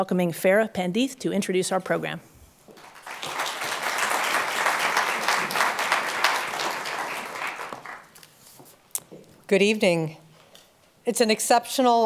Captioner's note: applause